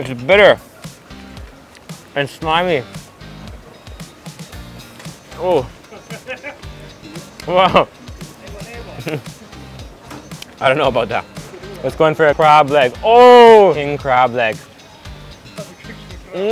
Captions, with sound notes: It's bitter and slimy. Ooh. Whoa! (speaks in foreign language) I don't know about that. Let's go in for a crab leg, oh! King crab leg. (lively music)